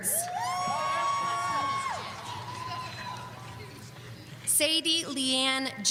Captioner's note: audience cheering